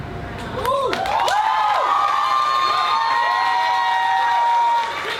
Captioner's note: audience applauds and cheers